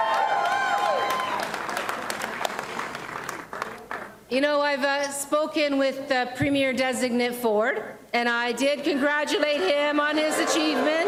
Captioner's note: applause and cheering